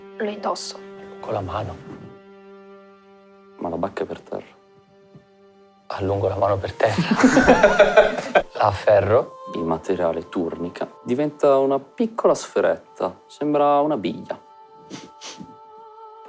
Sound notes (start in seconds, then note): 6.8 laughter; 14.8 sniffs